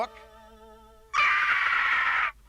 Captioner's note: scream